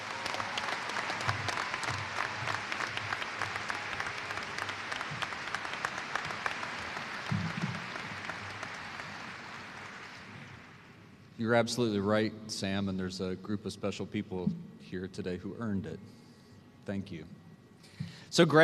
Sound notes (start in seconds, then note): 6.7 applause